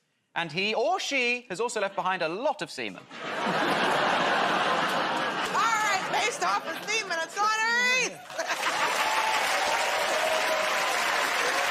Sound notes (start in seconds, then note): 3.1 laughter; 10.8 cheers and applause